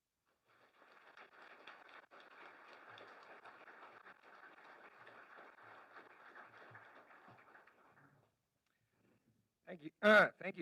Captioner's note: applause